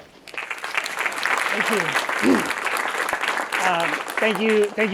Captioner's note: audience clapping